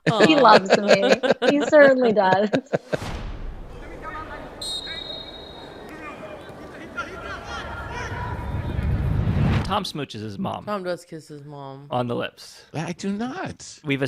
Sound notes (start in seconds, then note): 3.8 men yelling